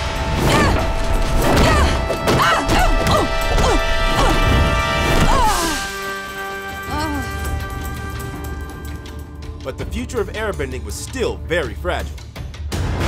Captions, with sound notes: [groaning] But the future of Airbending was still very fragile.